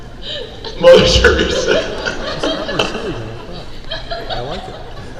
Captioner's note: laughing